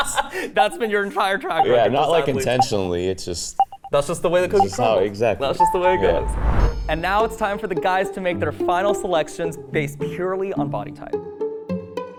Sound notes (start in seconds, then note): 0.0 laughs; 5.6 timer dings